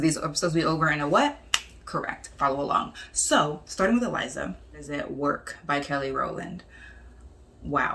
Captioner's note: snaps